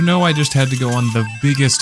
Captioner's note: slot machine jackpot sounds